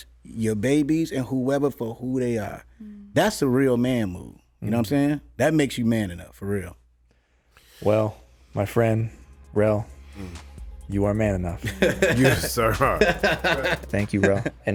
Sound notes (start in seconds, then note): 12.9 laughs